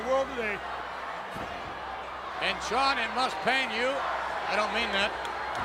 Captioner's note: applause